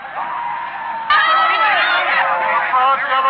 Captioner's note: cheering